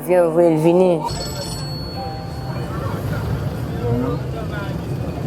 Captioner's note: phone rings